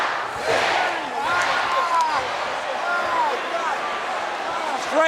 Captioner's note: audience cheering